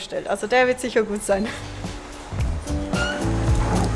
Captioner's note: laughter